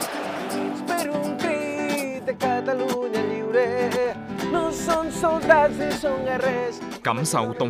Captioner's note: Chanting together for Catalonia's freedom